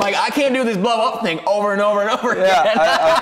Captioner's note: laughing